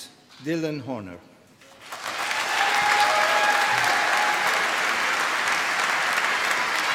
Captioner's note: applause